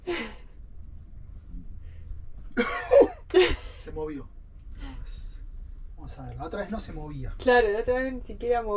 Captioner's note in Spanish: risas